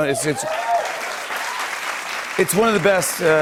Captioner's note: cheers and applause